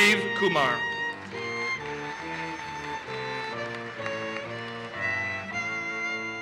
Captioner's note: audience applauses